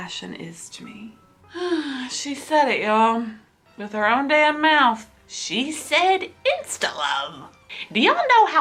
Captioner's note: sighs